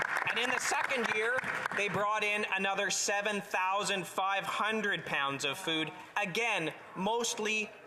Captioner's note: applause